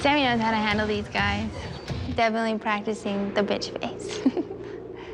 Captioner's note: laughs